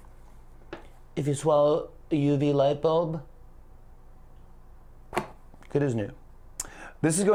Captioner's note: As Trump; normal voice